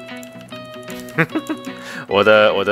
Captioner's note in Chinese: 笑聲